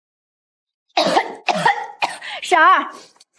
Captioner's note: cough cough cough